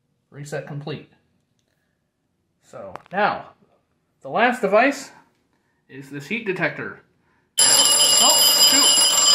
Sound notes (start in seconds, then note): 7.6 trouble bell sounds again